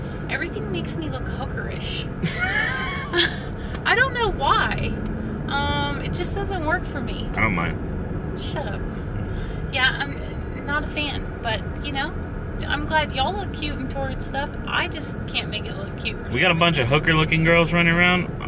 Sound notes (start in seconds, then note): 2.2 laughing